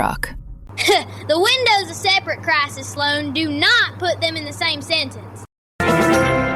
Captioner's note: laughs